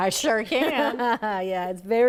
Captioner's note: laughs